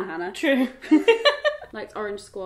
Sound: laughing

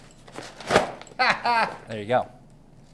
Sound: laughs

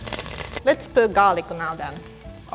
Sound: speaking in foreign language

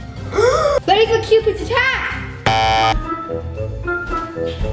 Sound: gasps dramatically; beeps buzzer; goofy music

